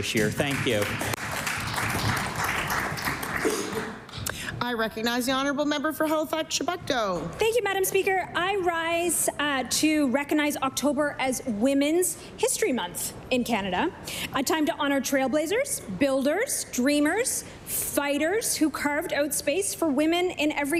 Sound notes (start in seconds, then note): 4.5 applause